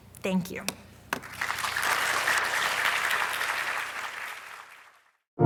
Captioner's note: audience applauding